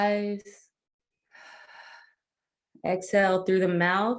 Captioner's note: exhales air